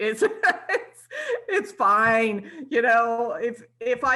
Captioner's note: laughs